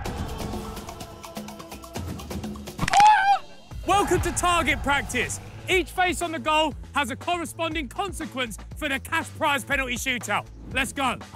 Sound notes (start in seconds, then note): 0.0 upbeat percussive music; 2.8 player shrieks